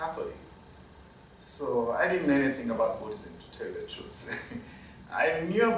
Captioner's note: laughter